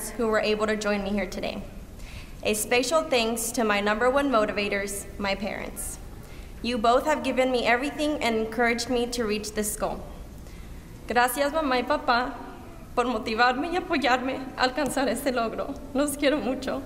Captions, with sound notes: who were able to join me here today. A special thanks to my number one motivators, my parents. You both have given me everything and encouraged me to reach this goal. [SPEAKING SPANISH]